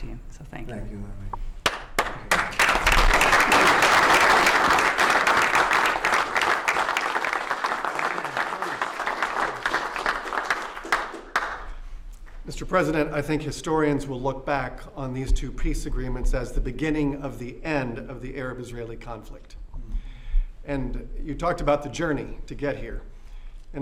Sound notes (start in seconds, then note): 9.0 applause